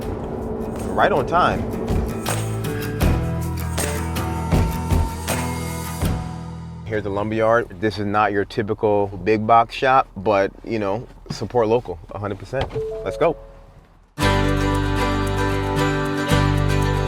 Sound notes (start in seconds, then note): 1.7 downtempo music; 12.7 car chiming; 14.2 easygoing music